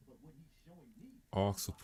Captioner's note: blank Audio